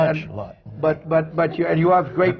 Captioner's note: laughter